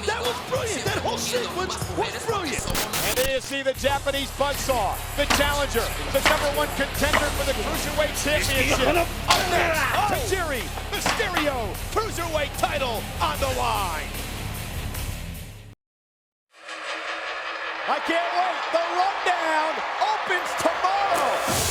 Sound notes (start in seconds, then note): 2.6 static buzzes; 9.2 Tajiri shouts; 9.2 kick thuds; 15.0 hard rock music